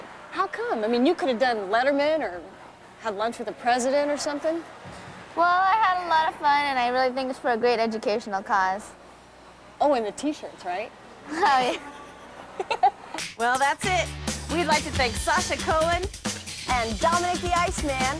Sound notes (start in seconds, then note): 11.2 laughing